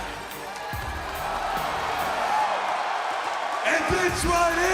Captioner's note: cheers and applause